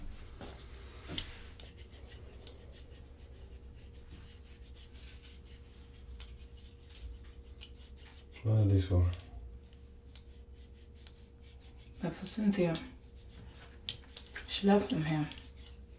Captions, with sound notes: (Sound of keys) What are these for? They're for Cynthia. She left them here.